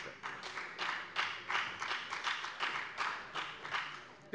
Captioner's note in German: Beifall bei der FDP